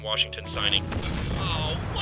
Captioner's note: boom